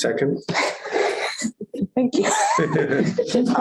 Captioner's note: laughter